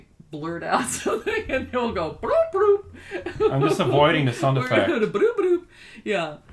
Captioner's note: laughs